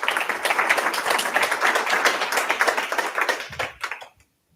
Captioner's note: applause